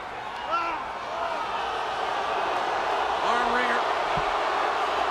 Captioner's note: audience cheers